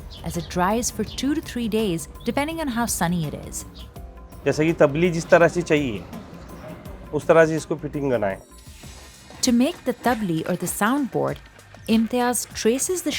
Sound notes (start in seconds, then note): 4.8 speaking foreign language